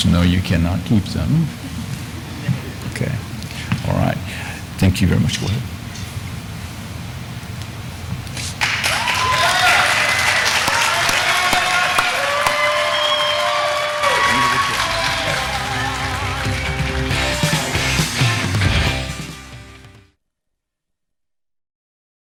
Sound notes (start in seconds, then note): 2.4 people laughing; 8.6 audience applauding; 8.6 audience cheering; 10.4 audience applauding; 10.4 audience cheering; 18.6 upbeat instrumental music